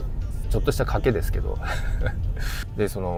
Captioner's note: laughs